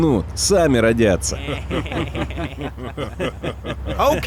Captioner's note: laughing in russian